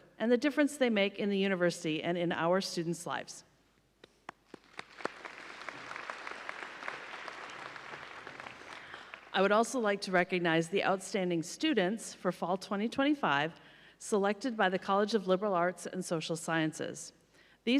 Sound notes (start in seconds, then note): 4.3 audience applauding